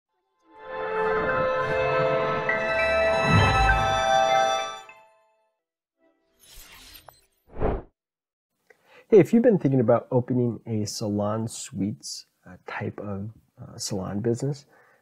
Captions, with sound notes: (bright music) (glass screeching) (air whooshing) - Hey, if you've been thinking about opening a salon-suites-type of salon business